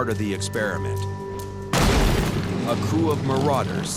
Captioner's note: explosion